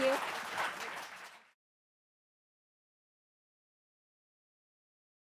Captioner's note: audience applauds